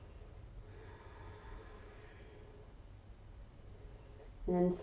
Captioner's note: exhaling